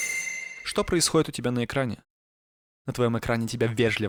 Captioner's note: introductory squeak